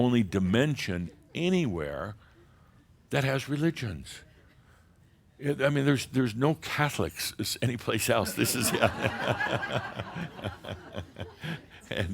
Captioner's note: laughter